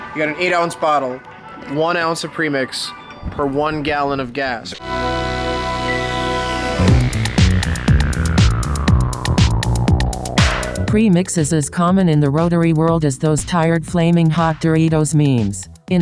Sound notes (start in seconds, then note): 4.9 disco music; 11.0 computer Voice